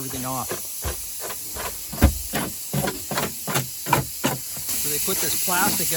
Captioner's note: rasp scraping